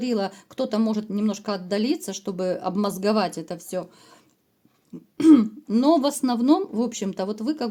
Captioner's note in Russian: откашливается